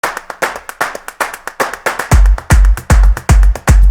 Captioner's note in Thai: การปรบมือตามจังหวะ